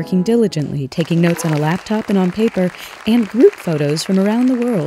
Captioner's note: applause